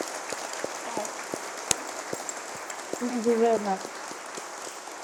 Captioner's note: applause